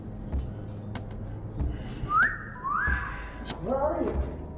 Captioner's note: whistles